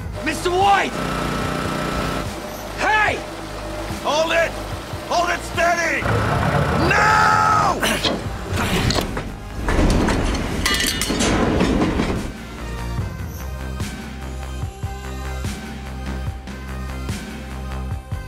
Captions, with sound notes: Mr. White! Hey! Hold it. Hold it steady. Now! [GRUNTING]